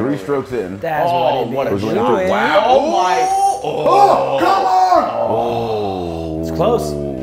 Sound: laugh

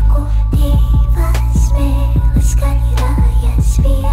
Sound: two tongues loudly scolding

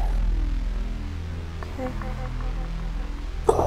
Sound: echoes

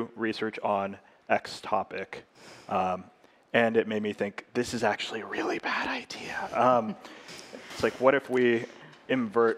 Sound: whispering

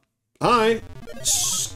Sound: loud pc speaker sounds

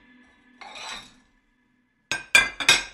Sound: cutlery

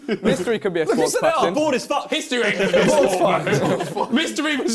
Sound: crowd mumbling

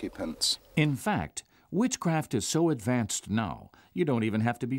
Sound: voiceover

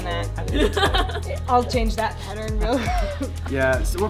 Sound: laugh

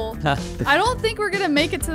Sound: laughing amusingly

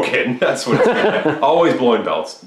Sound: laughing

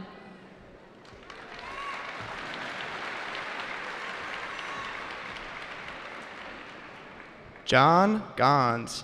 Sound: applause

